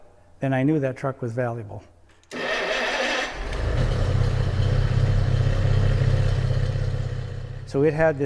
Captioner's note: engine starting